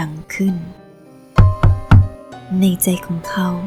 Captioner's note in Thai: เสียงเคาะประตู